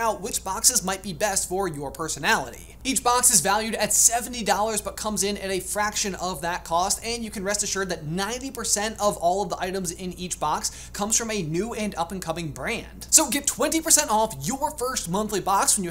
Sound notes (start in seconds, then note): none